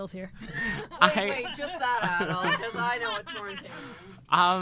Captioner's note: laughing